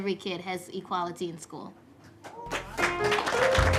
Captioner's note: applause